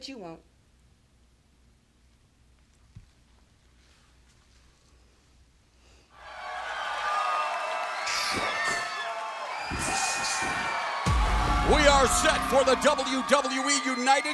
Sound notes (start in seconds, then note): 6.1 crowd cheering